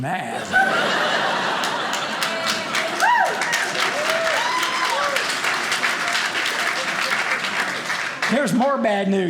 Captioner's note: audience cheering